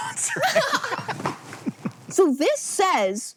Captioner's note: BOTH laugh